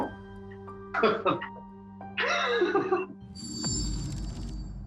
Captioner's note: laughs